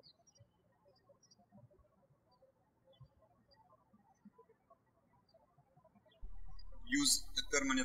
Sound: birds chirping

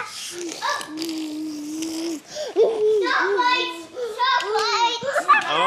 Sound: child making car noises

